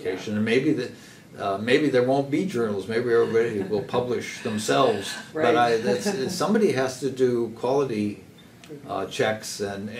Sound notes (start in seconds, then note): 3.1 laugh